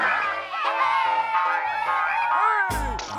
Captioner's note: cheers and applause